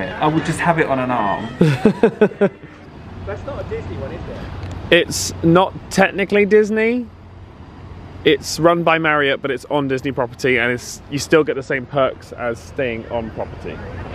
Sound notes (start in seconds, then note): 1.4 laughs